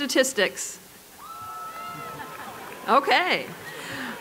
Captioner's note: applause